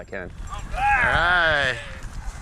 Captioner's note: cheering